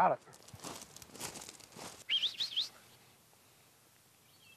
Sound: footsteps tapping; whistling

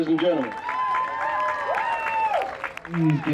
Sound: clapping and cheering

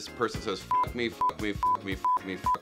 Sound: beep

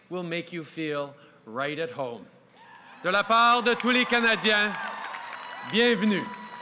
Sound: cheers & applause

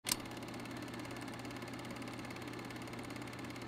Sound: reel whirring

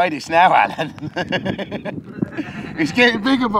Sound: laughing

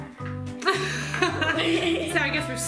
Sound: both laughing

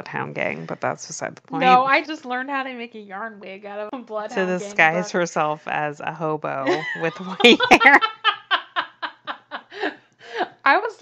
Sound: laughs

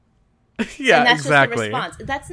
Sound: laughs

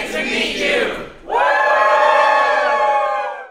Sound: cheers

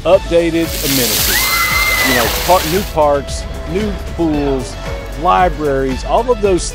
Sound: splash, screams

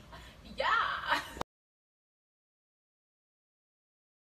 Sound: laughing

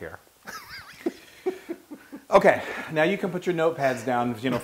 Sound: laugh

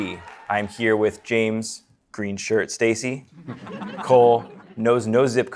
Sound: audience applause, cheering; audience chuckling

